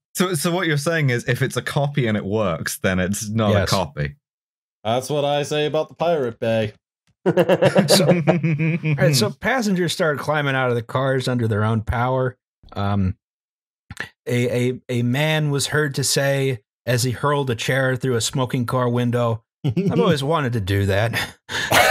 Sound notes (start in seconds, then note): 7.2 laughter; 21.1 laughter